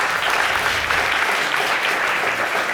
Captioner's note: audience applauding